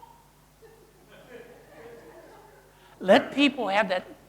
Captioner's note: audience laughing